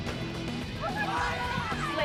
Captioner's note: fans shouting